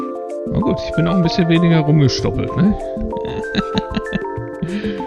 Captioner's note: laughs